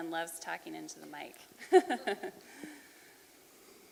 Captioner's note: chuckling